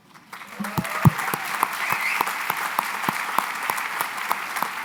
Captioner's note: applause